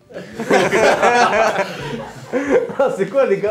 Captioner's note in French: Rires